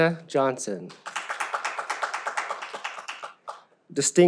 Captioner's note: audience applauds